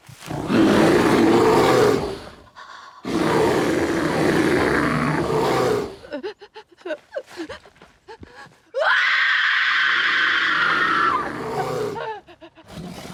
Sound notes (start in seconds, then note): 0.1 bear growls; 6.2 Kate whimpers and screams